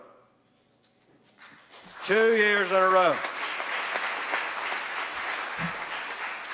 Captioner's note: applause